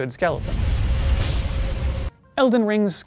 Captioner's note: cart rumbling non-stop, and the sound of smashed skelly